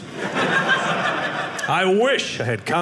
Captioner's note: audience laughing